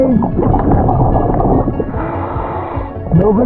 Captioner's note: oxygen bubbling in water; oxygen tank hissing